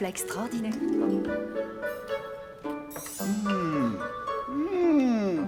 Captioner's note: people chattering